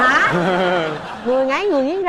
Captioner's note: laughing